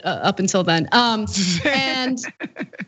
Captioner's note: laugh